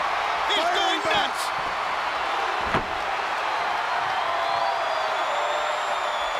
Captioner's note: crowd cheering